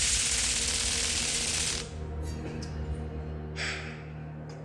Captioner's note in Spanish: Sonido de descarga eléctrica